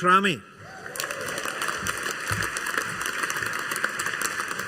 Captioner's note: audience applauding